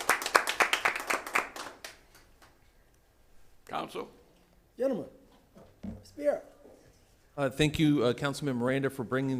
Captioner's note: applause